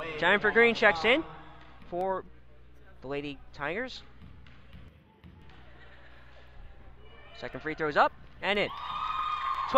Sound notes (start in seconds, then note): 4.3 crowd talking